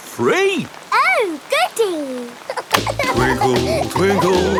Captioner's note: giggling